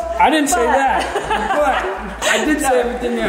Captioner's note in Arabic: يضحك